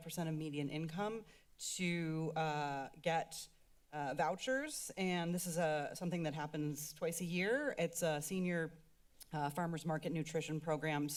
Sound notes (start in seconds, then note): none